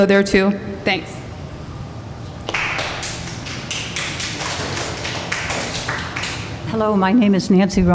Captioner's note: applause